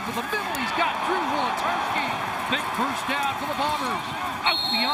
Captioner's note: crowd din